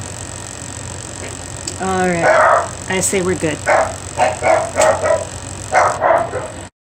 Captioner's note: dog barking